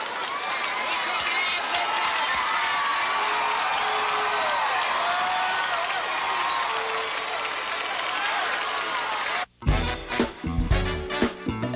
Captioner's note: crowd cheering